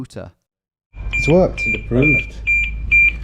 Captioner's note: machine beeping